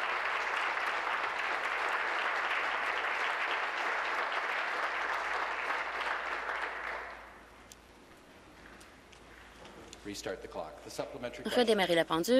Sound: applause

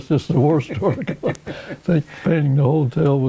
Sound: laughing

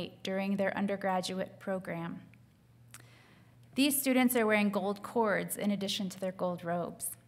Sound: none

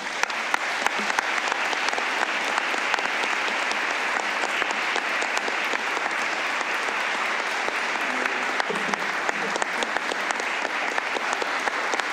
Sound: applause

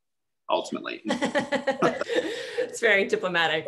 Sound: laugh

